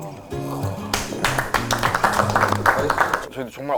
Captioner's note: claps